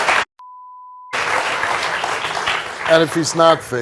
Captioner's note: beep